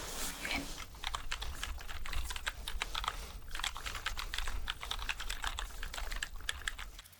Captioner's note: typing sounds